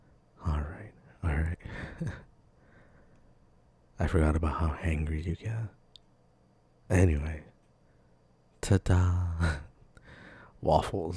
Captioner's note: chuckle